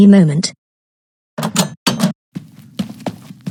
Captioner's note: door opens & closes; footsteps